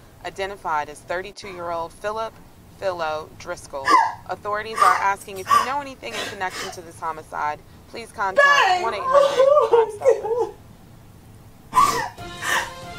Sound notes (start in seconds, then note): 5.3 woman crying; 8.4 woman sobbing